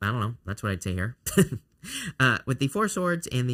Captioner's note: chuckles